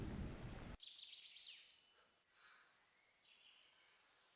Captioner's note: birds chirping